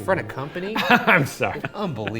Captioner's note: laughs